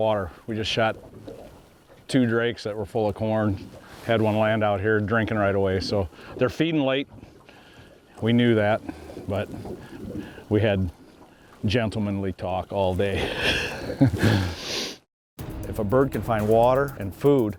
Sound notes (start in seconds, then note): 13.4 laughter